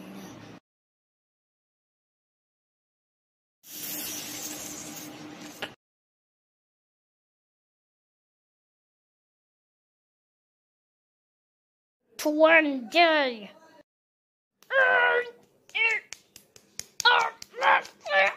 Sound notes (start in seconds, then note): 14.7 20 Hurting Sound